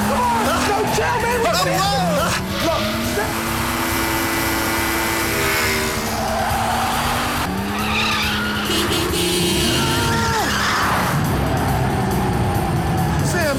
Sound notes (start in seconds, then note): 6.8 tires screeching; 8.3 car horn honks; 10.1 Jeremy groans